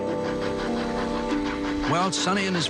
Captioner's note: choo choo